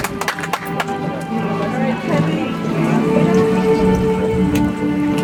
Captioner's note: audience applauds; soft music